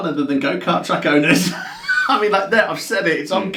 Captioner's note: both laughs